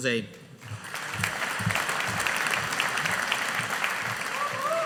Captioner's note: audience applauding